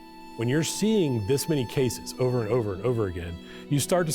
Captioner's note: none